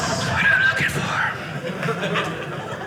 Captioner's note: audience laughing